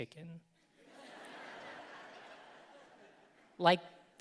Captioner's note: audience laughing